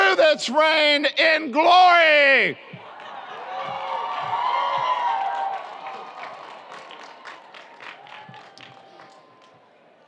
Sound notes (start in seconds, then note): 2.8 audience cheers; 2.9 audience applauds